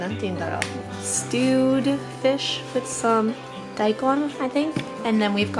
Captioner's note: speaking foreign language